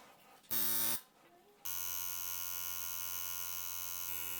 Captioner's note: machine buzzing